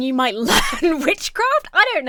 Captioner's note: laughs